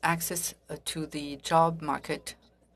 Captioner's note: speaking French